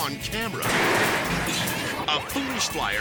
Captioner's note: car smashing